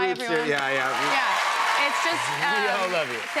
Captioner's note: cheers and applause